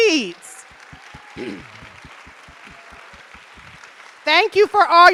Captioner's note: audience appluading